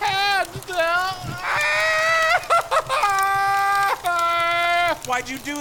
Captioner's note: begins laughing